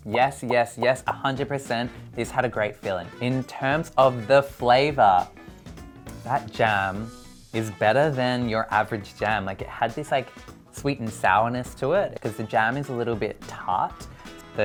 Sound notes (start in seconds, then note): none